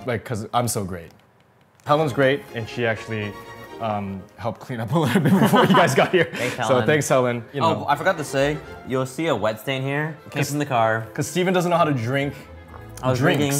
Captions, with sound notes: Like, cause, I'm so great? Helen's great, and she actually helped clean up right before you guys got here. (laughing) - Thanks Helen. - So thanks Helen. - Oh I forgot to say, you'll see a wet stain here. Case in the car. - Cause Steven doesn't know how to drink drinks.